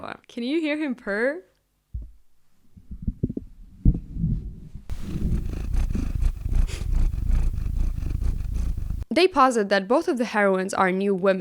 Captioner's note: Vasya purring